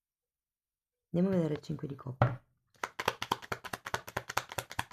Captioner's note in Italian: Applauso